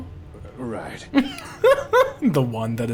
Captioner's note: laughing